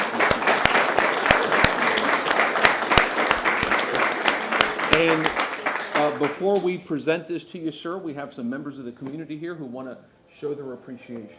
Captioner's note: applause